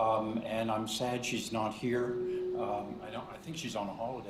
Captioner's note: microphone feedback